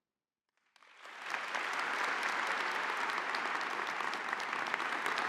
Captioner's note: audience applauding